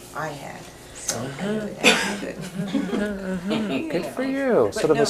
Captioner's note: laughs; voiceover